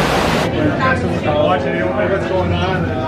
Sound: guests chattering

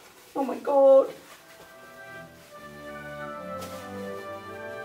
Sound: fabric rustling

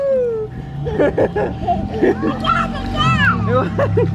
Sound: laughing

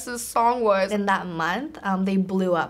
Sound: none

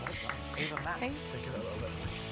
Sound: laughs

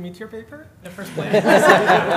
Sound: laughter

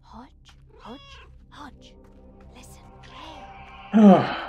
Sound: Hodge meows; Hodge meows; sighs

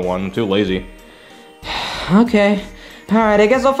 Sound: sighs

